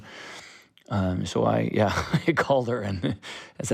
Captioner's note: laughter